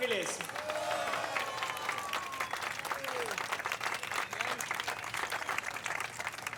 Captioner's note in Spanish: aplausos; gritos y exclamaciones